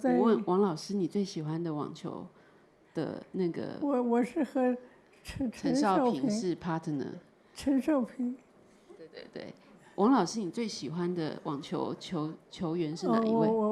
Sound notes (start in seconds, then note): 0.9 Mandarin